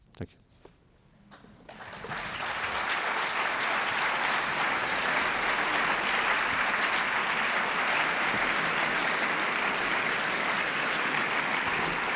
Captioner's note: applause